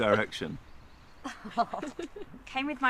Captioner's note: Tilly laughing